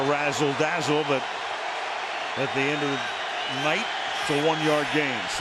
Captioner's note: crowd cheering